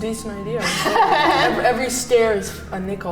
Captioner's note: laughing